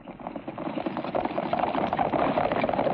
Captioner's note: horses galloping